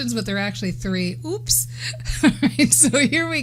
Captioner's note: laughs